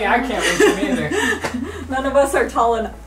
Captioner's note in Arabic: أمي تضحك